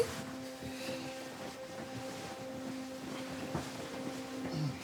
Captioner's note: bedding rustling